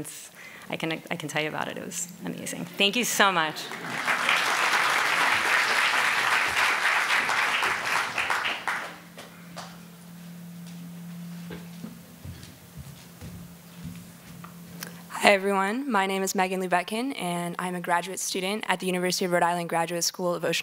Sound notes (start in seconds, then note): 3.4 applauding